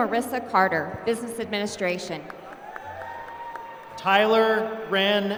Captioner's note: applause